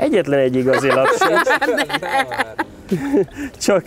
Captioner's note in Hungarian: nevetés